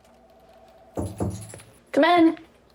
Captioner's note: knocking